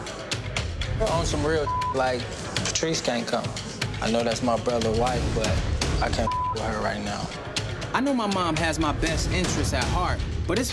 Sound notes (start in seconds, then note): 0.1 intense music; 1.6 beep; 6.2 beep